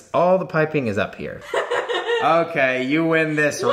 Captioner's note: laughing